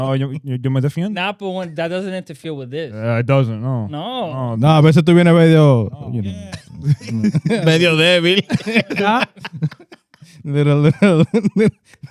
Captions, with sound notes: Napo, that doesn't interfere with this. It doesn't, no. No. (Speaking In Foreign Language) (Laughing)